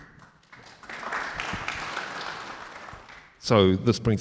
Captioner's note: audience applauding